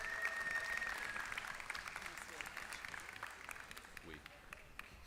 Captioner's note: applause